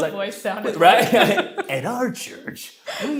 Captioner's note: laughs